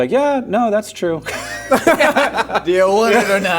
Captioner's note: laughing